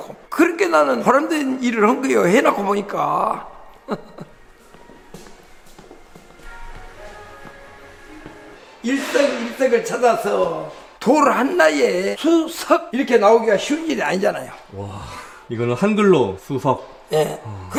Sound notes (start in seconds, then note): 3.7 chuckles